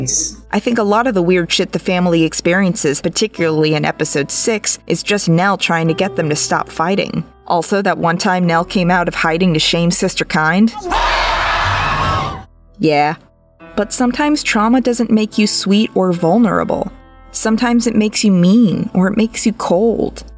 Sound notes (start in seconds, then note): 10.7 screaming